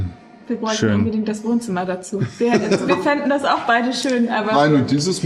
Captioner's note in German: gelächter